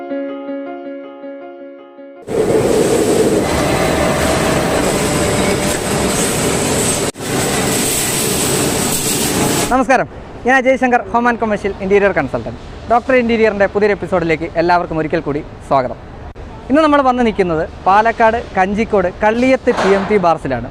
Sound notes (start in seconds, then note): 2.2 machines running